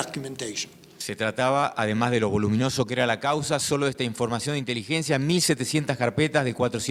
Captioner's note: speaking in foreign language